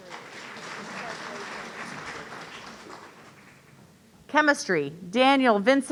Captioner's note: audience applauding